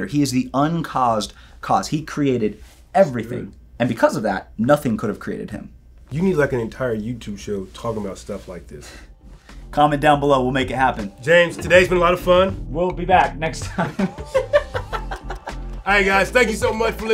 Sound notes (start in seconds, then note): 13.7 laughs